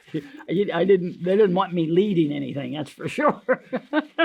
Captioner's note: laughs